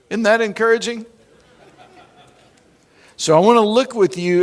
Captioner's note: laughing